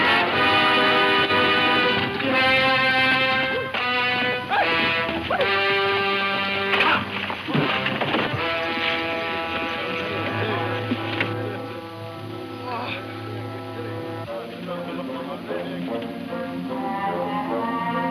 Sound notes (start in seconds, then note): 0.3 riders shouting; 12.4 Kentucky groans; 15.3 dramatic music